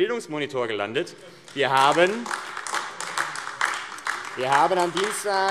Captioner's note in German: Beifall AfD